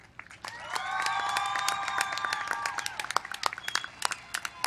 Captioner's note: applause